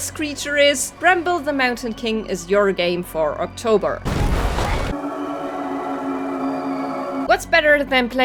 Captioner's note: smashing sound; creepy music